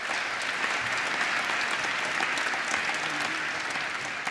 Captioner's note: applause